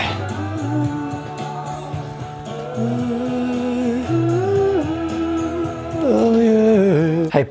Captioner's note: humming